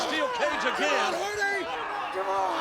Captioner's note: Matt screaming